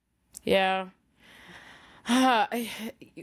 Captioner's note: sighs